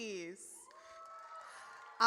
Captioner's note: audience cheers